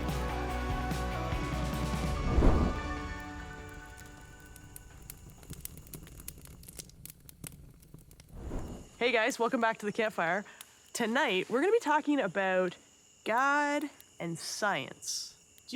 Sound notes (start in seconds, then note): 3.8 fire crackling